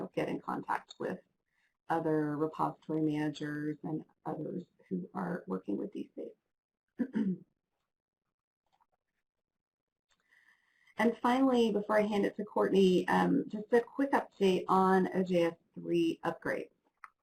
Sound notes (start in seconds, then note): 7.0 throat clear